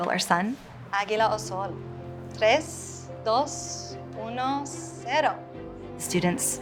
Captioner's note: speaks in Spanish language